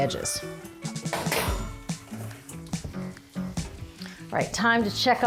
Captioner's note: metal clangs